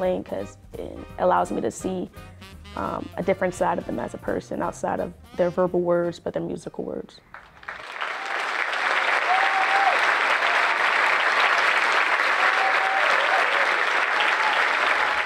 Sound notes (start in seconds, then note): 7.3 audience applauding and cheering